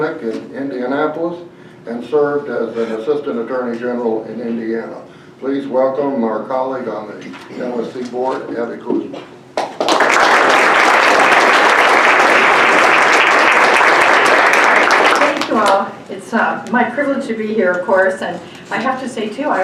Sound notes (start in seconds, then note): 9.6 applause